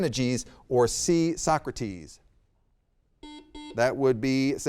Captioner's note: buzzer beeps